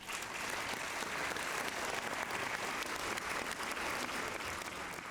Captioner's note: applause